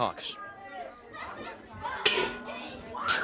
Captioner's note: bell ringing; crowd chatter